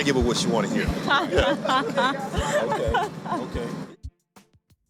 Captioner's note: laughing